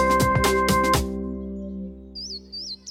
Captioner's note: birds chirp